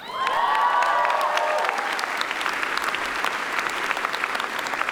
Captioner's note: audience cheers and applauds